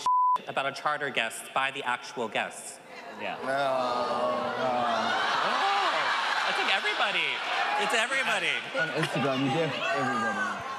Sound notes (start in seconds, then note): 2.9 groan; 4.4 audience cheering